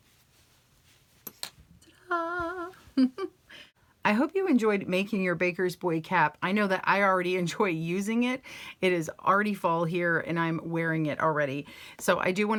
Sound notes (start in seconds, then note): 2.2 giggles